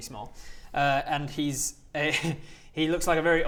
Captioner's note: laughs